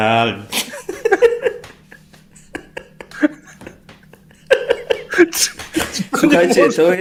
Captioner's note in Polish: śmiech